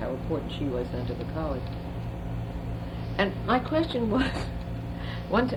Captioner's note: laughs